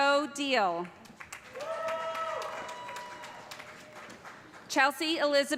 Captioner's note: cheers and applause